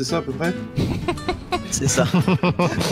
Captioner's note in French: rires